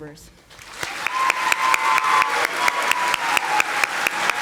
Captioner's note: audience applauding